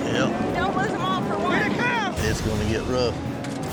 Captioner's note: all shouting